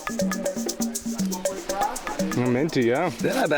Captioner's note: boys chatter